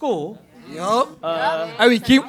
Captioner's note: affirmative chatter